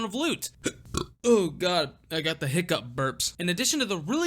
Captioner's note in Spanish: Eructo.mp3